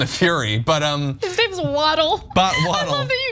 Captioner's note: laugh